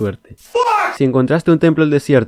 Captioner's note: man screaming FUCK